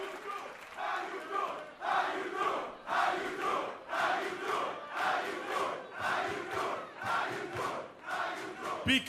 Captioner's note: cheers & applause; fans chanting